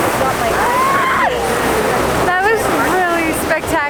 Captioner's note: screams